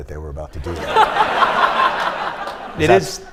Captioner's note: laughter